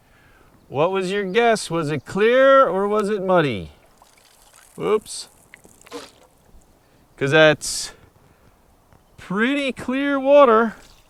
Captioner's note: sound of pouring water